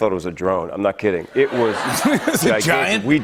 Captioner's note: laughter